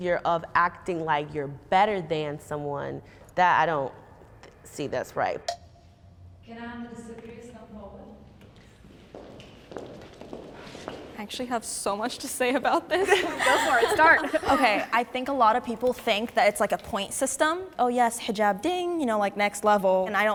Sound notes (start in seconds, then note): 5.4 timer taps; 8.2 footsteps approaching; 12.9 participants laughing